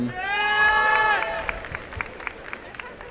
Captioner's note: applause and cheering